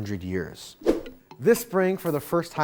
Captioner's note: graphics whooshing